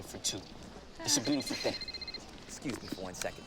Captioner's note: phone rings